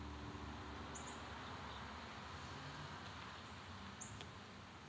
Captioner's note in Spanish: Aves trinando